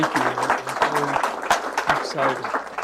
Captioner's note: applause